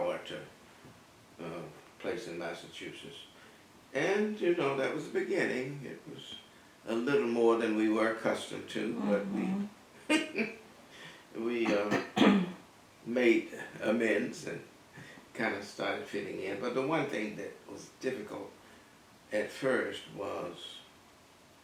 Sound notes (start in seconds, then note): 10.0 laugh